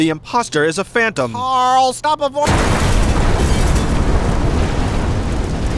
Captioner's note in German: Explosion